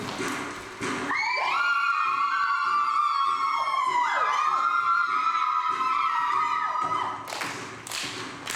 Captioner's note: women screaming; rhythmic drumming and clapping